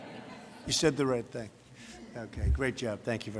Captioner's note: laughter